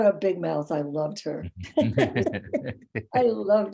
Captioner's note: laughing